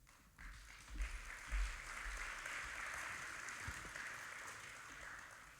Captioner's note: audience applauding